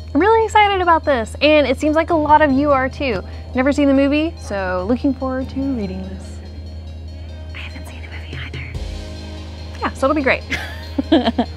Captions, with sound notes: I'm really excited about this! And it seems like a lot of you are too! Never seen the movie so looking forward to reading this. (whispering) I haven't seen the movie either. -Yeah, so it'll be great! (laughing)